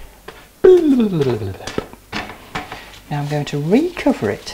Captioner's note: mouth noises